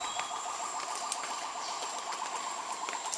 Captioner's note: gibbons calling